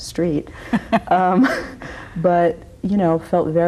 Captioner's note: both laugh